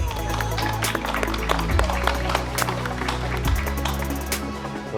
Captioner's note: loud applause